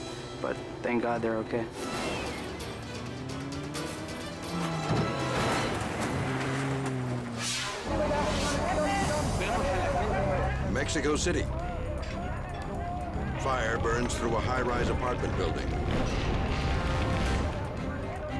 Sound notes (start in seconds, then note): 2.1 tense dramatic music; 5.1 car crashing; 8.0 people shouting; 8.0 tense dramatic music; 15.8 flames whooshing